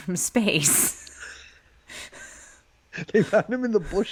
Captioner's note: both laughing